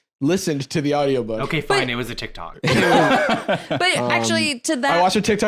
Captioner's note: laughs